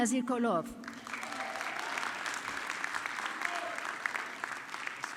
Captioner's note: audience clapping